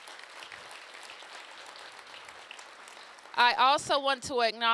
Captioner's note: applause